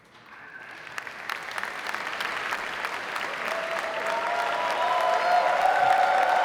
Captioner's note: audience cheering; audience applauding